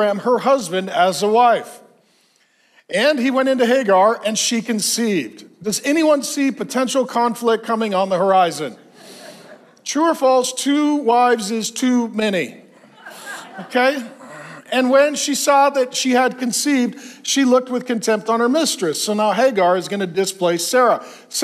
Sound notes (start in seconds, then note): 8.7 congregation laughs; 12.6 congregation laughs